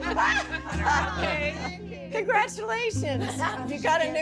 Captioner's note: shouts and laughs